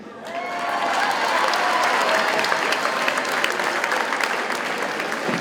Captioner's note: audience cheers and applauds